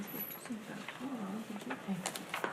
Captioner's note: speaking faintly